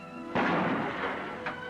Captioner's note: gunshot